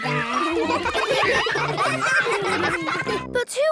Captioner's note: ruckus